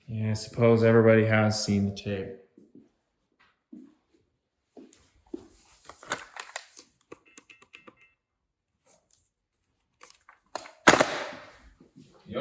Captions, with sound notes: - Yeah, I suppose everybody has seen the tape. (dialing phone) (phone clicking onto receiver)